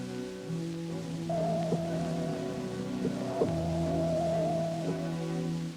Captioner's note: pulsating sound